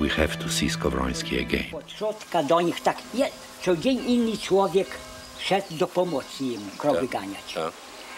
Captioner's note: speaking Polish